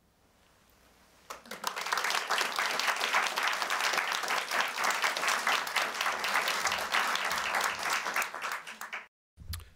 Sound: applause

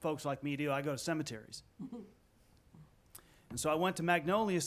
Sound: some chuckling

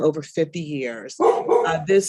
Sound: dog barking

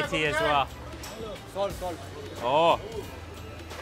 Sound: speaking foreign language

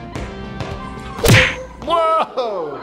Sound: thumping

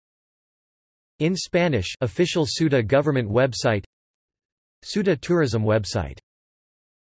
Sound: in Spanish

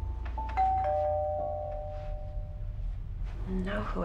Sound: doorbell rings

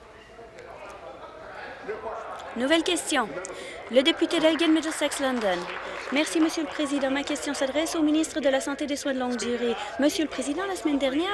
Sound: applause

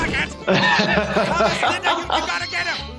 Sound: laughing

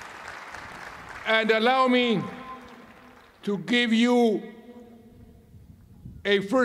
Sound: applause

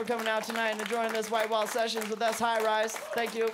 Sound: applause

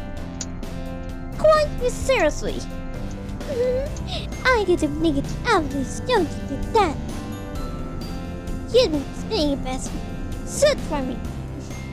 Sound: laughs and speaks like rarity mlp

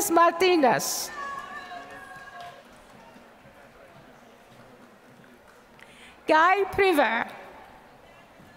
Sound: applause

